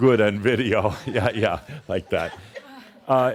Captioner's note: more chuckles; chuckles